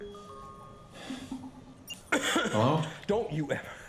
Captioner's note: ringtone continues; digital beep; violent coughing